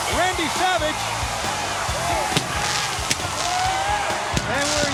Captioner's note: fireworks exploding